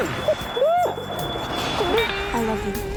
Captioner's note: crying